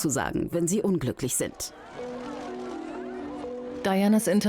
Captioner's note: crowd cheers loudly